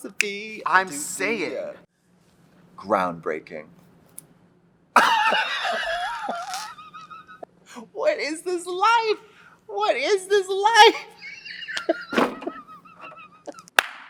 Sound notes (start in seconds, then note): 5.0 drag queens laughing; 11.0 laughing; 13.6 drag queen claps hands